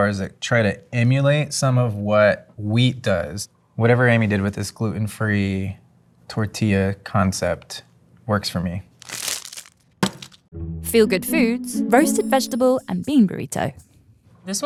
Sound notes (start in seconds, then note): 8.9 wrapper ripping; 9.0 burrito thumping